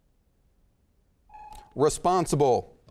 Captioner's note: timer sounds